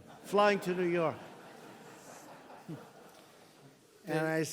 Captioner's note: laughter